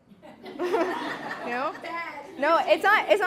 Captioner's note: laughter